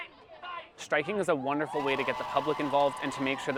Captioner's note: crowed cheering